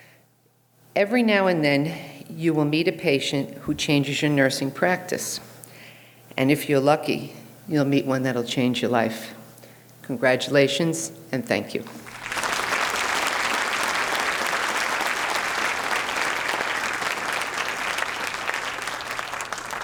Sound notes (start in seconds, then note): 11.8 audience applauding